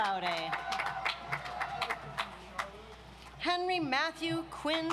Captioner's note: audience applauds